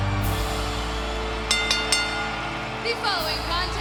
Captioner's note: crowd cheering; bell ringing